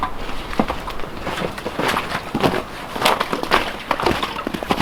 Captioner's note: snow crunching